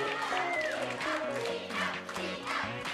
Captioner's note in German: Anfeuernde Rufe